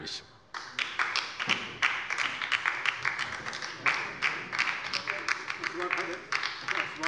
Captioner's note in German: Beifall bei der LINKEN